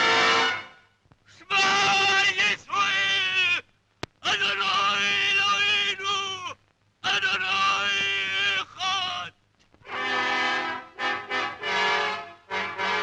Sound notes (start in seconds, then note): 1.7 speaking in foreign language; 9.9 orchestral music